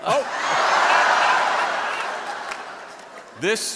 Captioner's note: people laughing